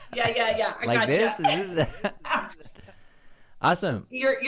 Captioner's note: laughing